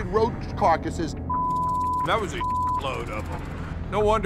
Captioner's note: beep